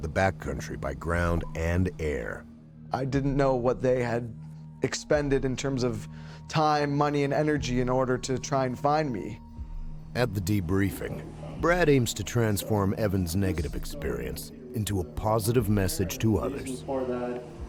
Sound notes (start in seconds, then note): 7.4 voiceover